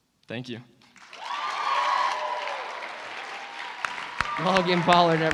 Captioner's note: cheering